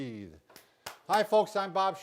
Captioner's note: clapping